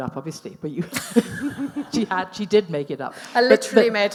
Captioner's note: laughs